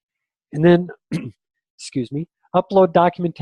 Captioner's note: clears throat